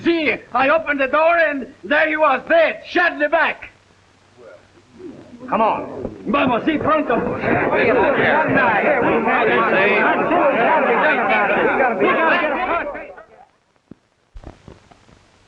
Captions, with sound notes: Si. I opened the door and there he was, dead, shot in the back. (crowd murmuring) Come on. (speaking in Spanish) (crowd murmuring)